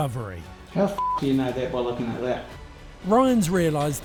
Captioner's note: beep